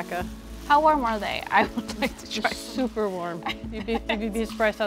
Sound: laughs

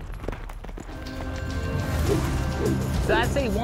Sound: rope whirling

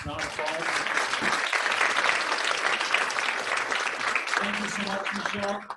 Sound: applause

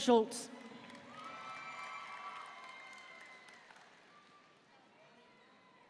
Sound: audience cheering and applauding

